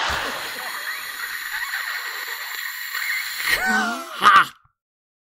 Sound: audience laughing; sarcastic hissing laughter

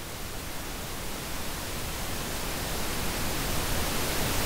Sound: increasing white noise

